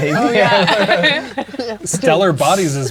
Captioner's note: players laughing